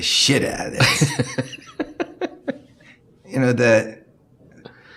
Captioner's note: laughing